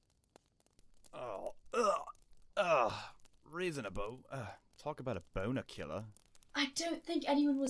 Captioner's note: Sirius makes a gagging noise